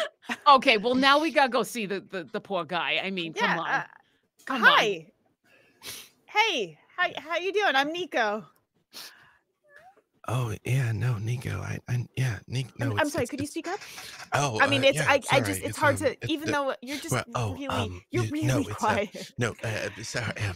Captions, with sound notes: - Okay, well, now we gotta go see the poor guy. I mean, come on. - Hi. Hey, how you doing? I'm Niko. - Oh yeah, no Niko (mutters). - I'm sorry, could you speak up. You're really quiet (laughs). - Nope, I, sorry.